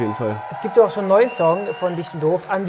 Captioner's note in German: Jubel